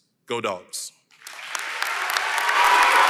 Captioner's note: applause & Cheering